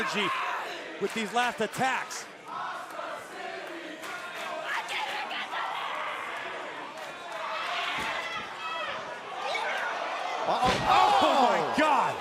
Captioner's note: crowd cheering